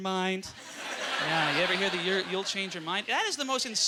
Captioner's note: audience laughter